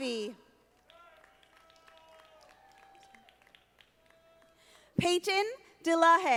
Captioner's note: audience applauding